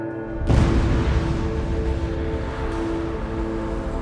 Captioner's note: explosions crash